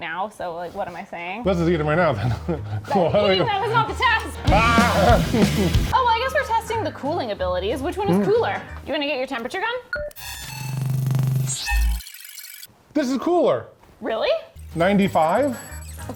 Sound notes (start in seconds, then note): 2.9 laughs; 4.9 energetic music; 10.1 electrical trilling